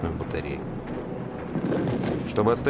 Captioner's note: sounds of gunfire